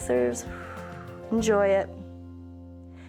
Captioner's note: exhales